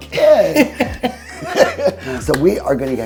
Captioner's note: all laugh